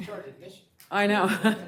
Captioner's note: some Laughter